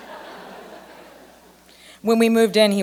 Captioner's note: laughter